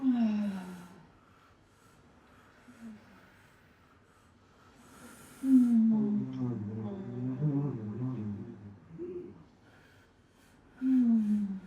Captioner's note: moaning; breathing; moaning